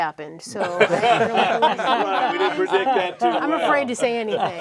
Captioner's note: all laugh and chatter indistinctly